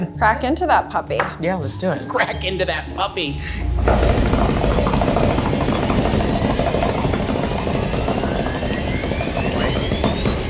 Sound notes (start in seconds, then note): 3.8 suspenseful music; 4.2 hands tapping